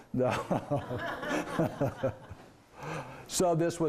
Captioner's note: laughing